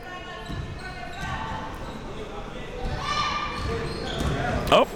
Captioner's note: spectators shouting